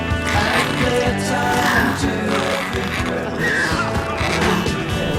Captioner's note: creatures snarl